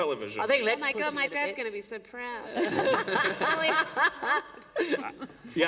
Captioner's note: laughter